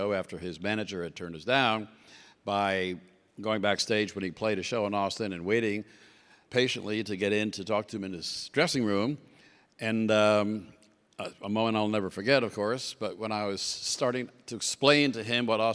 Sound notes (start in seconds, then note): none